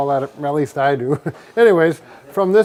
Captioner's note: chuckles